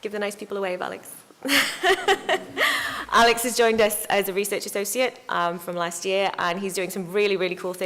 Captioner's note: laugh